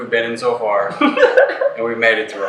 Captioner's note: laughing